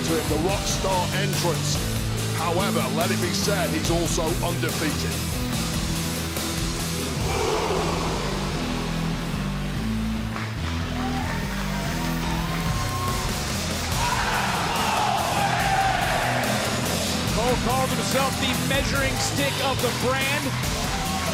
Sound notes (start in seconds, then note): 8.5 applause